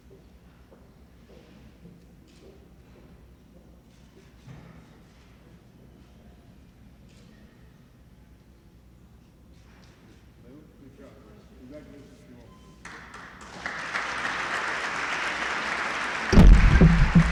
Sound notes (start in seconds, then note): 2.7 applause